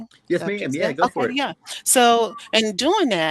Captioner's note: faintly speaking